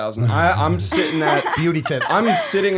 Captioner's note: laughter